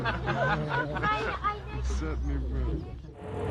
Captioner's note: laughing; speaking softly; voiceover